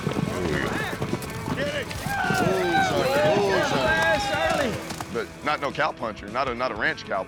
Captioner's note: cheering